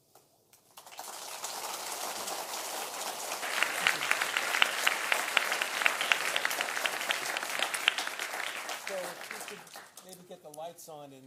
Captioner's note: applause